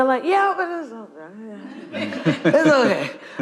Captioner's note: audience laughing